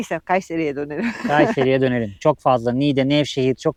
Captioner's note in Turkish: kahkaha